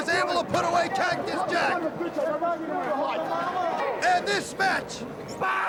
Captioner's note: crowd chatter